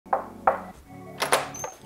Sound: knock, Knock

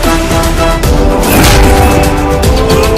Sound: thuds

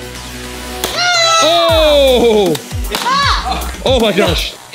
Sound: screaming

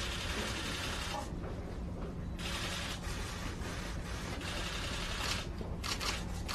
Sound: camera clicks

